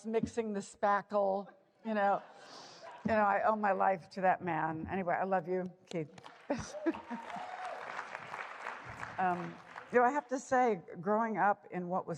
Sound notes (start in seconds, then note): 6.1 applause; 6.5 chuckling